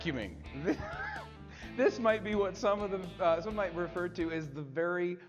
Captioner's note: laughs